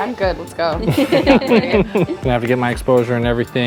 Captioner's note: everyone laughing